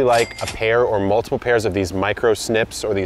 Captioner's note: cash register rings